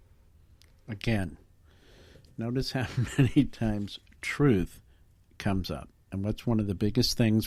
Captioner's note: slight laughing